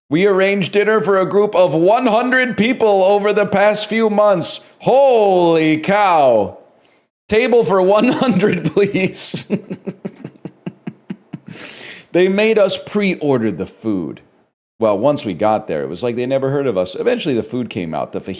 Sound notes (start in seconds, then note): 8.0 cracks up